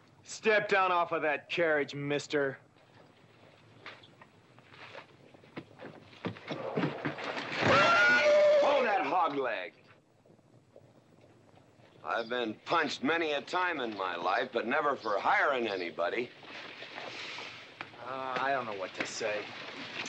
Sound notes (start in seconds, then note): 6.1 scuffling; 7.6 horse neighing loudly